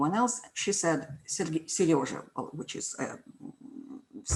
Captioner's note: speaks foreign language